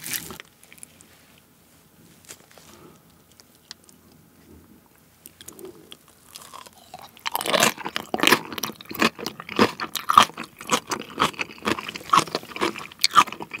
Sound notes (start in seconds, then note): 7.6 Crunch